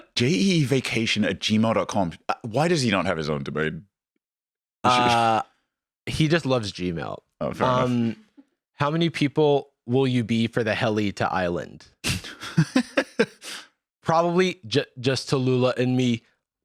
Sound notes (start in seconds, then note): 12.1 laughs